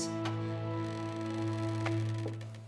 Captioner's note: door opens